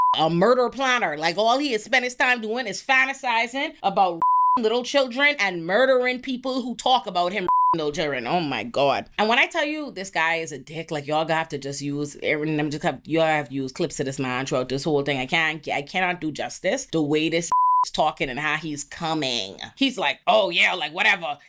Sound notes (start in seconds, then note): 4.2 beep; 7.4 beep; 17.5 beep